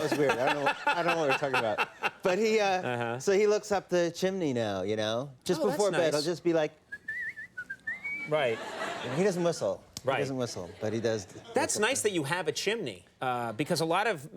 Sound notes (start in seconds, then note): 0.0 Conan laughing; 6.9 Matthew whistling; 8.4 audience chuckling